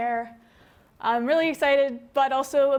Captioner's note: none